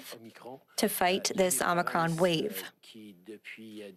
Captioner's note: speaking French